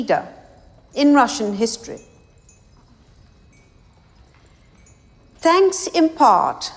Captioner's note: glasses faintly clanging